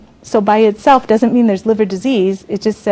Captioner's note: none